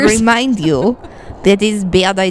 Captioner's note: laughs